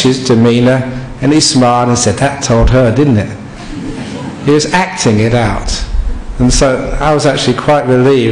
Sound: laughter

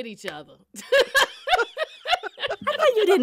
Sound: laughter

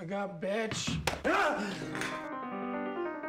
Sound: Skinny Pete screams

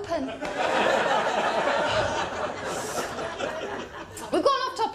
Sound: laughter

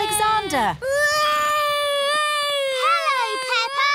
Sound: continues wailing

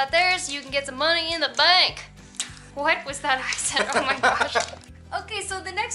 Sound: laughter

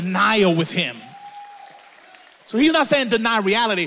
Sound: audience applauds

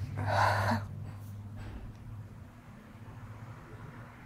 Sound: sighing

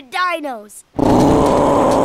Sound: roaring

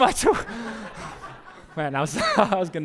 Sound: pastor: Laughter

